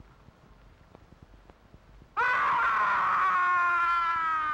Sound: shout

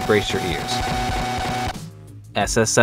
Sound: obnoxious buzzing sound

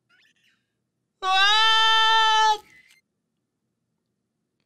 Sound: screams

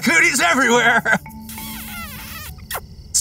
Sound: smooch

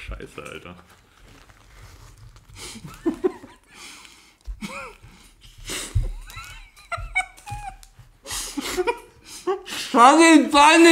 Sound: laughs

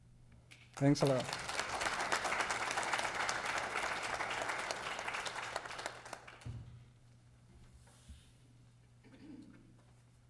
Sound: applause

